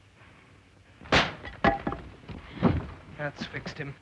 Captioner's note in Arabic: صوت طقطقة عالي; ضربة قوية